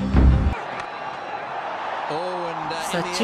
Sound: audience cheering

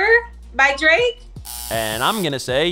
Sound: buzzer

